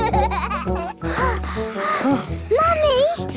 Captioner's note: children giggling; panting